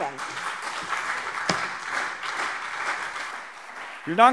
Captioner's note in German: Beifall CDU und BÜNDNIS 90/DIE GRÜNEN